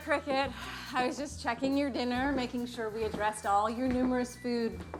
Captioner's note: gasping